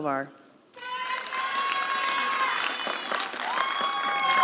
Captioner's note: applause